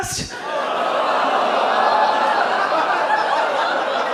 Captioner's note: audience groans